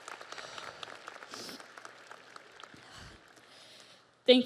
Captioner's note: audience applauds